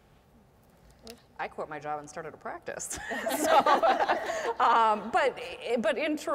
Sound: laugh

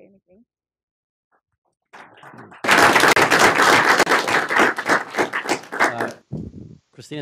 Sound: applause

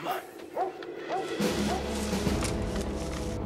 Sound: dog barking

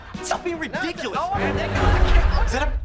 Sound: arguing

